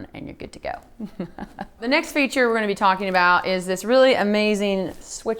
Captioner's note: laugh